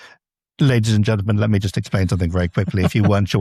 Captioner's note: laughs